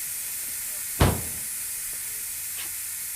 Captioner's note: car doors slam shut